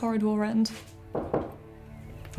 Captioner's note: knocking at the door